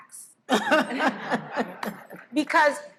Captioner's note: all laughing